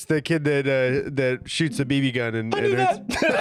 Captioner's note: still high-pitched; all laughing